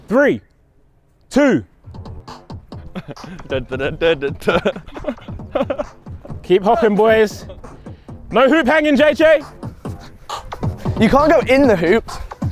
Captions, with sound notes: Three, two... (upbeat instrumental music) (humming) (laughing) Keep hopping boys. No hoop hanging, JJ. - You can't go in the hoop.